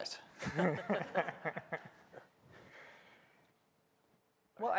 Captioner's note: laughter